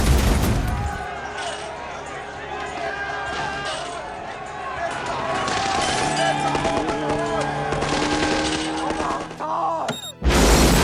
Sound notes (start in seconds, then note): 1.7 protestors chanting in Arabic